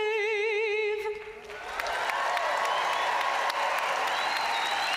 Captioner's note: audience cheering and applauding